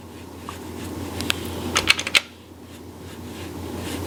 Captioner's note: pad whirring